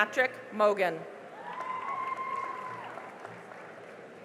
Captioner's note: cheering and applause